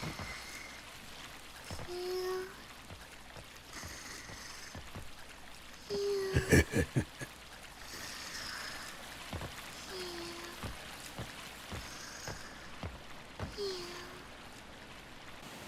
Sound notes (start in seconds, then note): 0.3 snoring; 6.3 chuckles; 7.7 snoring